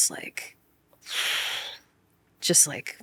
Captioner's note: exhaling